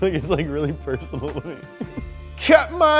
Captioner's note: giggles